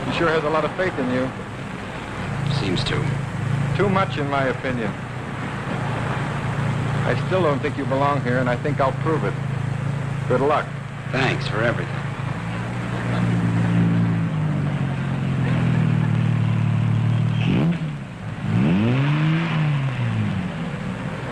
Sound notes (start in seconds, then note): 13.5 engine rumbling; 17.6 engine revving